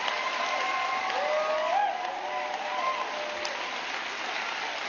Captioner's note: applause